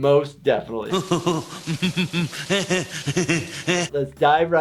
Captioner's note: Mr. Burns laughing; shower water pouring